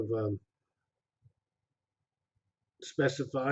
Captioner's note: pause